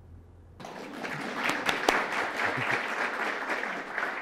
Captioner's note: applause